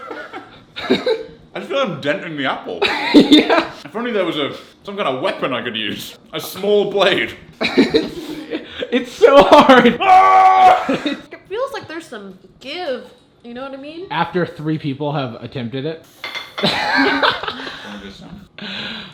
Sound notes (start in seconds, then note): 0.1 laughs; 9.9 screams; 16.6 laughs